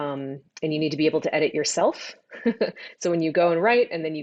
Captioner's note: laughs